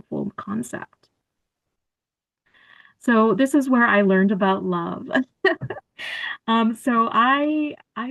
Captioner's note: laughter